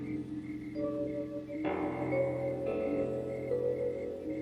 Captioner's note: suspenseful music; insects chirring